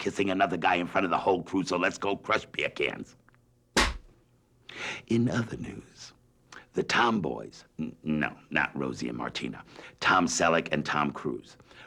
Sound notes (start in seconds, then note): 3.8 slate clap